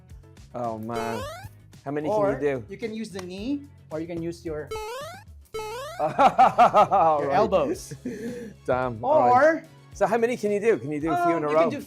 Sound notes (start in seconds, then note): 6.0 laughs